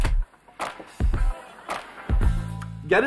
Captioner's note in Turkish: Gülme efekti